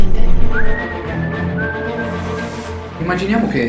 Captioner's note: wistling " "